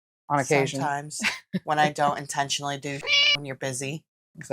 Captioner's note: meow